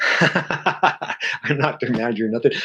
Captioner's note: chuckles